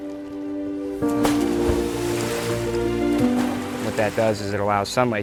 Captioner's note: splashing